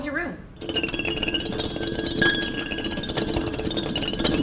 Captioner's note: eerie twinkling